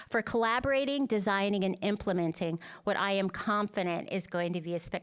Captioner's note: none